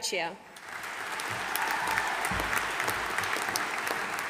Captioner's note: audience applauding